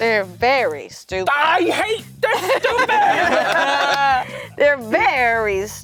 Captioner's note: everyone laughing